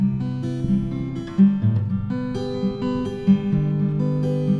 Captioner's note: none